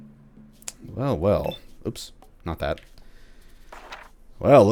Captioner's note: journal opens